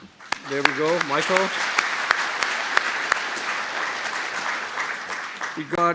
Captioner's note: applause